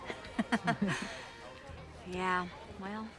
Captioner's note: both chuckle